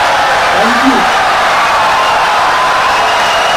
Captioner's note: audience cheering, applauding for 17 seconds